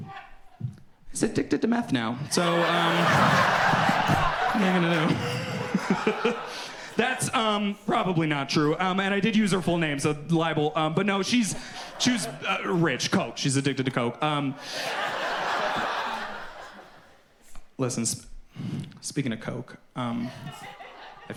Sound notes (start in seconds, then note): 4.0 audience laughs; 6.7 laughs; 16.3 audience laughs